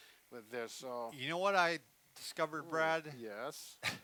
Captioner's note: laughs